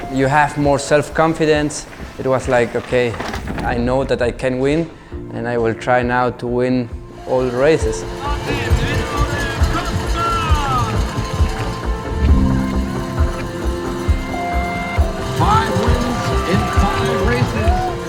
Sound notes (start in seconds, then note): 8.9 crowd shouting